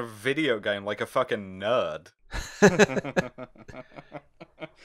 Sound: laughter

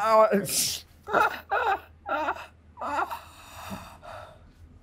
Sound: laughing

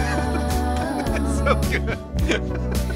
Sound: laughs

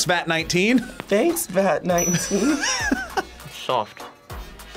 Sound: React laughs

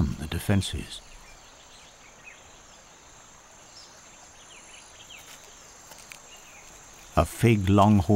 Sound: birds chirping

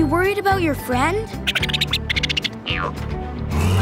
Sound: squeaking

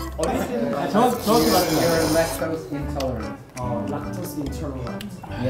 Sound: slurping again; filled the audio with slurping sounds

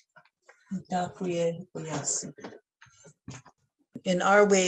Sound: speaking in foreign language

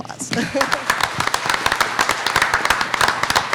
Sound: applauding

